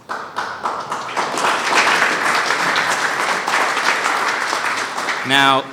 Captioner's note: applause